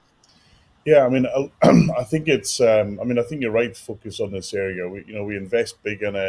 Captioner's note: cough